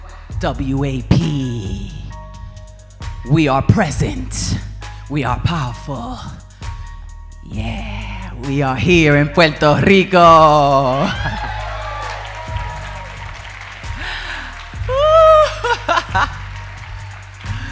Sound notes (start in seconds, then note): 10.6 audience cheering; 10.9 audience applauding; 13.9 laughing